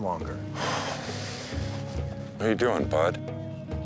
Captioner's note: bear huffing